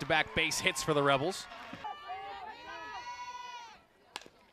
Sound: cheering

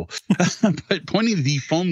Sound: laughs

